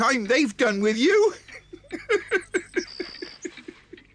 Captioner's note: laughs